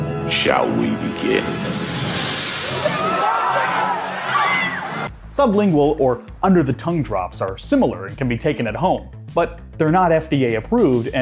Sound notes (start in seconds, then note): 2.6 screaming